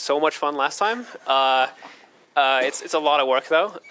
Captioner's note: laughter